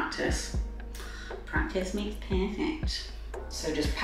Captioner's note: mocking tone